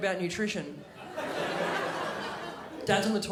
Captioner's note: crowd laughs